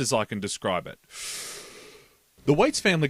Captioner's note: breathes in